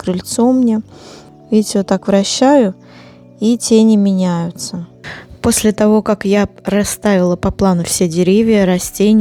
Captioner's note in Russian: фыркает